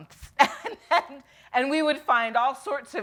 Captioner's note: laughs